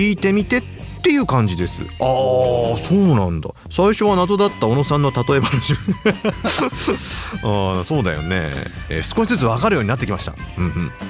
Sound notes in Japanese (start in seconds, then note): 5.4 笑い